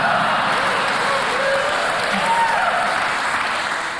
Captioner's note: crowd cheering